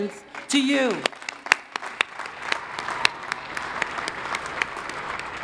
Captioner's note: crowd applauding